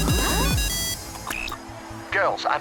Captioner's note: phone ringing